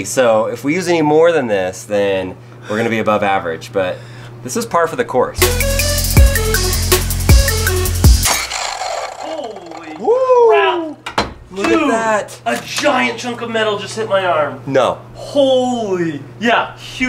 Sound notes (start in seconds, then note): 5.4 hip-hop music; 5.6 electric whirring